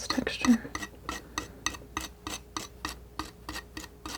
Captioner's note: scratching